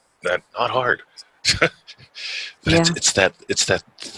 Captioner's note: chuckles